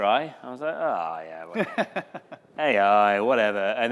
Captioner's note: laughter